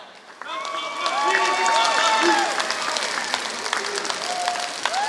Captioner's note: applause